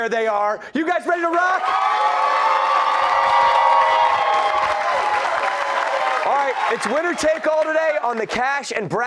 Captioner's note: cheers and applause